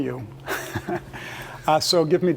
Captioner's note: laugh